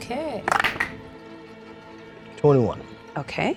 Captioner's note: die rattles